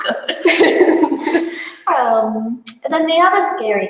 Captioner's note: both laugh